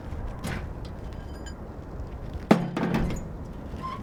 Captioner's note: wheelchair squeaking; metal rattles; wheelchair squeaking